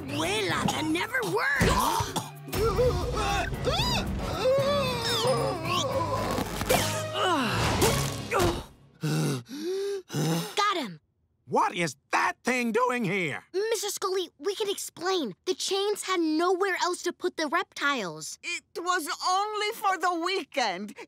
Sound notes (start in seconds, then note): 2.5 choking; 7.1 groaning; 8.9 panting